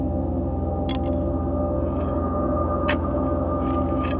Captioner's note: bone clinks; shovel scraping